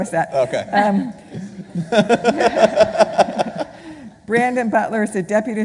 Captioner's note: laughing